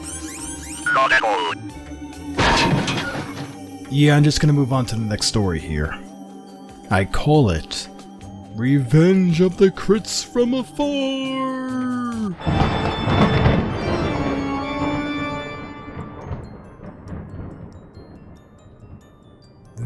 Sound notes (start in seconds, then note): 8.6 elongating every word in a spooky voice; 12.4 thunderclap